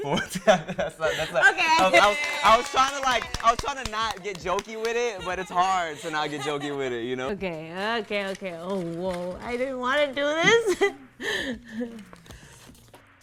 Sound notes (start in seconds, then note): 0.7 stammering; 1.7 cheering